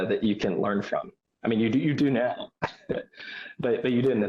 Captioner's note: chuckles